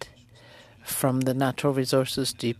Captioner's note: speaking French